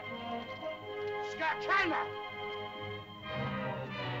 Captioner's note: Tumak shouts at caveman